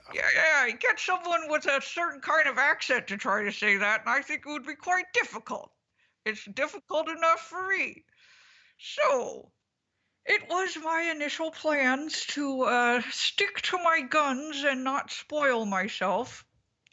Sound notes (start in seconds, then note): none